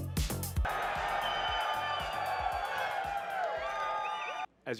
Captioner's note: crowd cheering